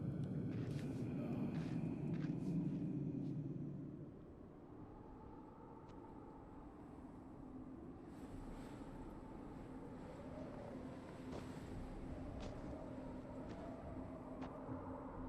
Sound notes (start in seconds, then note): 3.5 wind howling